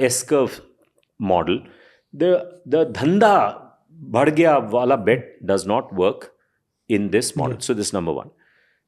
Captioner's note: speaks in Hindi